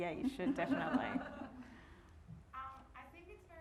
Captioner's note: all laughing